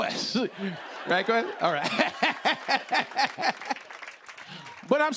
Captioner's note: laughs